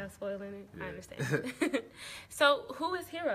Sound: laughs

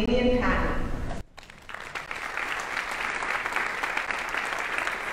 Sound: audience applauding

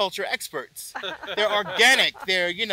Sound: laugh

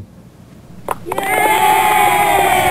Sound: children cheering

